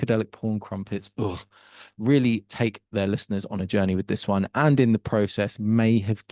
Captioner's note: ugh shudder